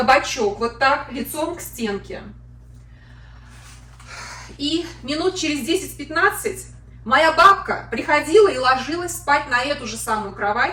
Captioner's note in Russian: вздыхает